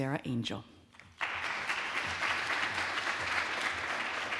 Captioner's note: audience claps